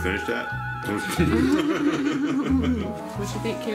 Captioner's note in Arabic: ضحك